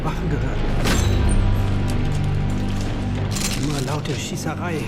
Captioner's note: door squeaks open, soldiers grab weapons